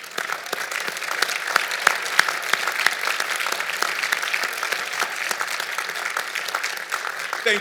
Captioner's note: applause